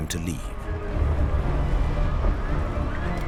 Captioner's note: earth rumbling